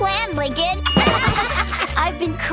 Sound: laughing

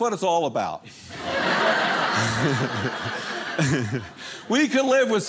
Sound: audience laughing

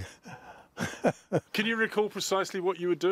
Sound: laughter

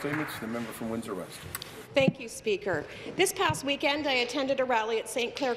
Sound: applause

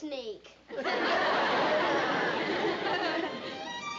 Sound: laughter

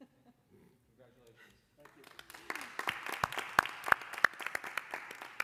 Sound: applause

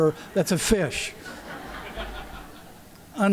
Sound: laughter

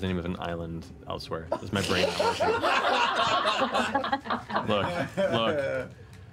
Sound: laughter

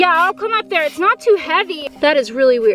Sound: scrapes dirt

